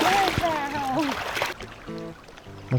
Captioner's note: laughs